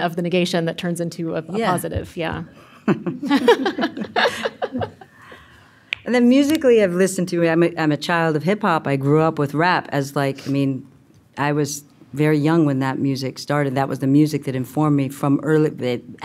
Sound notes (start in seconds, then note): 2.9 laughing